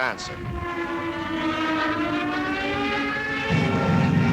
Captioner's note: planes buzzing